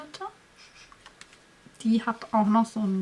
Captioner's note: sniffs